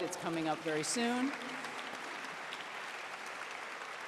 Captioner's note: applause